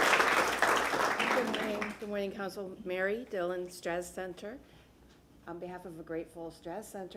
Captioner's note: applause